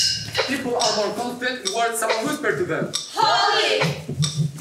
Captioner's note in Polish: Po angielsku